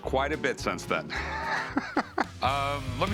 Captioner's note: laughter